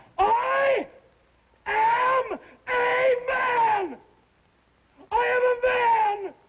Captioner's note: yelling